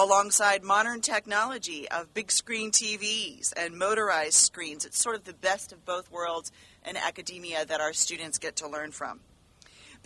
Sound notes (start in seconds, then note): none